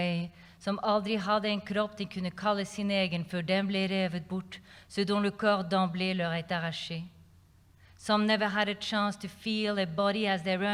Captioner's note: non-english speech